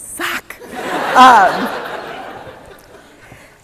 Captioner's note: laughter